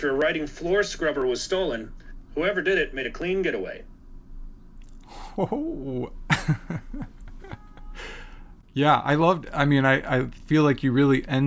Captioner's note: laughs